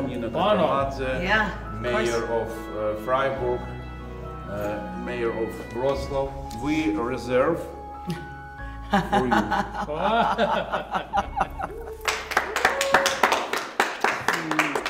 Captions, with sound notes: mayor of Frieburg, mayor of Rostov. We reserve for you. (people laughing)